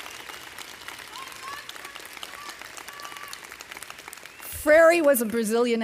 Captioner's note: student shouting